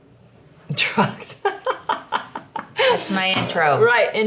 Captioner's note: chuckles